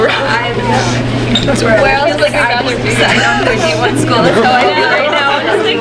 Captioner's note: people talking in background